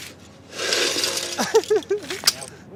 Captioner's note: scraping; laughs